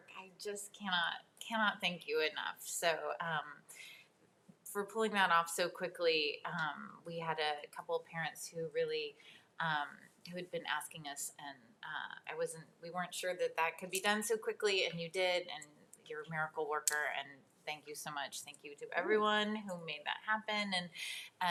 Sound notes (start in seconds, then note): none